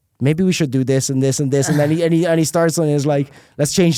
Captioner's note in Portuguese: risos